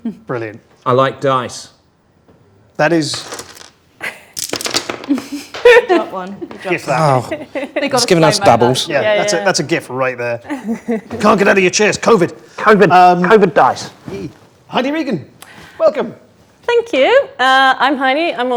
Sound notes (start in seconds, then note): 4.3 dice rattling; 7.3 overlapping chattering